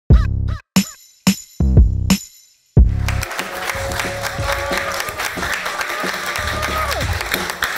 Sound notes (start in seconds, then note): 3.0 clapping